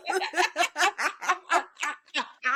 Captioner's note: laughing; Jodi laughing